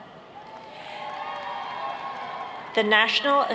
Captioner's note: applauding